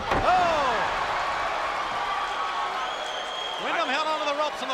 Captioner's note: spectators cheering